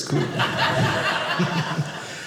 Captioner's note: audience laughing